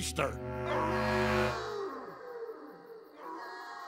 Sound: howling

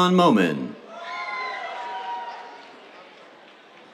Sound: cheers

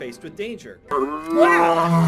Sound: lion roars

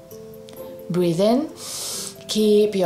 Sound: breathes in deeply

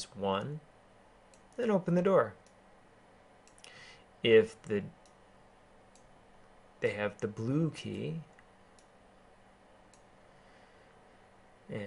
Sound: keyboarding

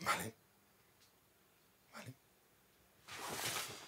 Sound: whispering

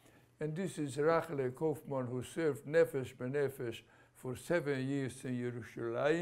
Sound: non-english

